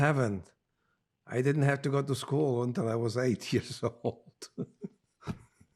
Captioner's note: laughing